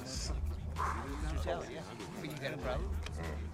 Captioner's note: exhales